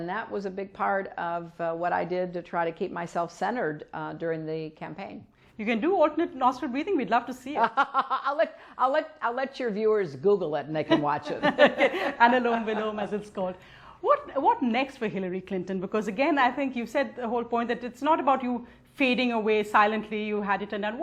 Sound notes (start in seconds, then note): 10.9 laughs